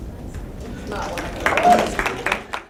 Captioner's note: applause